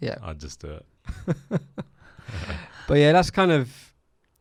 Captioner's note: laughs